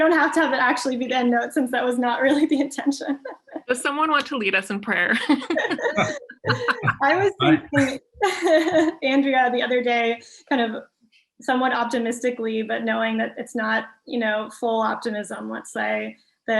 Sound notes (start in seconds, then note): 2.9 laughs; 5.2 all laughing